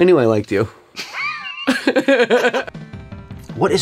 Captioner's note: both chuckle